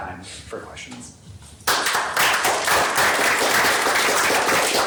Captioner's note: applause